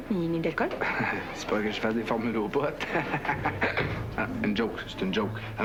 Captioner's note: Rire